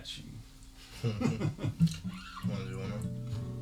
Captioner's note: both laugh